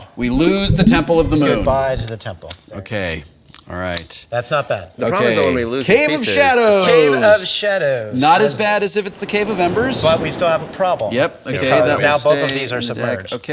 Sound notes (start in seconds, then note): 0.0 water bubbling